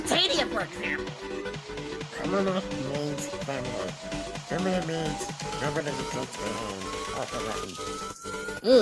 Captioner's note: In Stitch voice